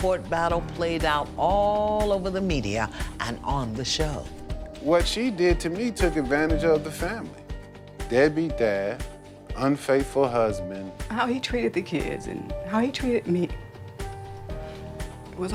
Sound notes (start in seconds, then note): 10.8 voice breaking